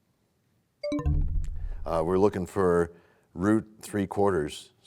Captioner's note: bell chimes, time expires